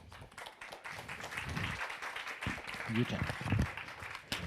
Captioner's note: audience applauds